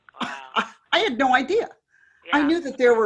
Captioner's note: chuckles